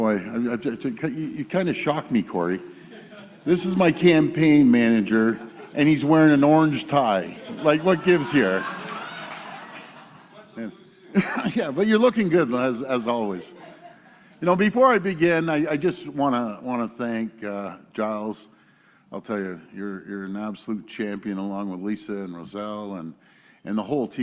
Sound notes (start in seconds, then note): 11.7 laughter